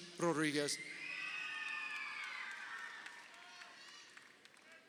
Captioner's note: crowd cheering